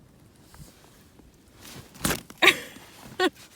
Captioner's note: laughing